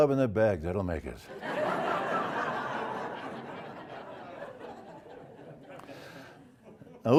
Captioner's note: laugh